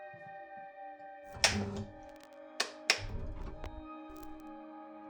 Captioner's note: ominous music; switches clicking